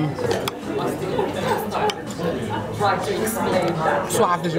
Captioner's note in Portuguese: ambiência de restaurante